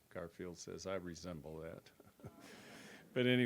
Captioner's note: chuckles